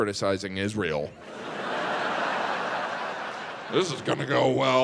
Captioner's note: audience laughs